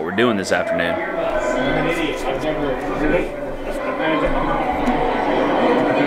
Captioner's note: TV noise drowns out speakers